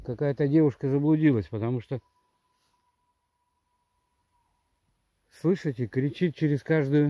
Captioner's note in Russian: крики АУ вдалеке